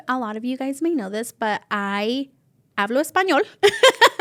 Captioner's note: laughs